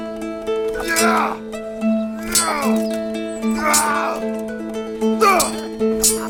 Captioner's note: manly 15th century grunting